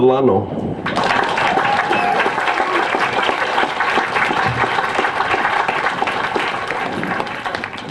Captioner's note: applause